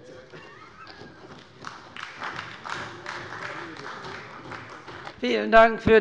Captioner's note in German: Beifall bei der CDU